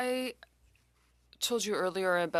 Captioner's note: speaking French